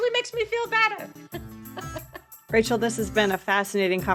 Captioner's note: laughing; laughing